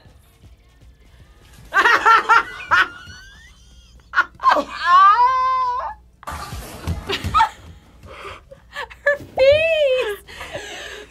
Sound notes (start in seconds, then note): 1.7 laughs; 7.0 laughs